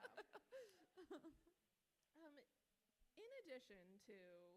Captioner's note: author laughs